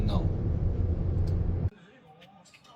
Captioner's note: wind blowing